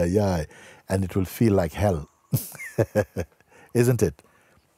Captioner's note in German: Lachen